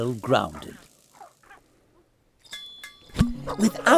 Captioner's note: dead silence